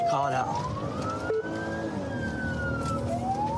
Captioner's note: siren blares